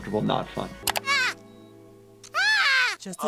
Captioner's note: Kyle shouts